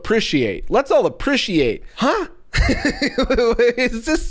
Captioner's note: laughs